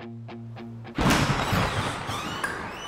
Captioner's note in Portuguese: som de porta abrindo